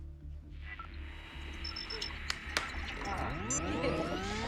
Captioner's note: static